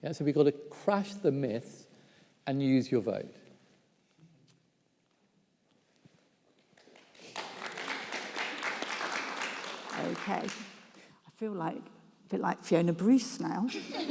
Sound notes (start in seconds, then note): 6.6 audience claps; 13.8 audience laughs